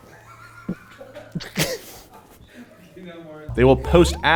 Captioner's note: laughter